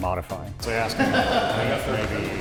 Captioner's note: laughing drowns out speech